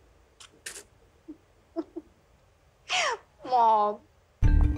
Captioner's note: Giggling